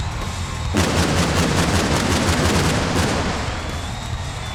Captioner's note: fireworks exploding